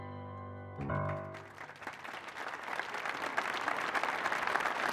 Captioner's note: audience applauding